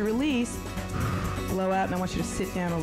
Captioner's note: breath hisses